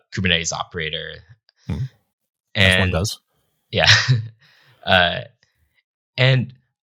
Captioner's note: chuckles